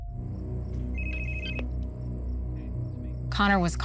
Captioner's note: phone ringing